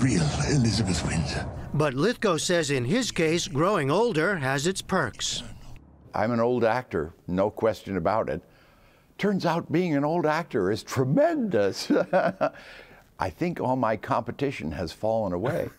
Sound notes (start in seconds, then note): 11.8 laughter